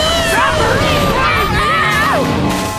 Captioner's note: screaming